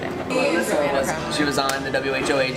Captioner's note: multiple people talking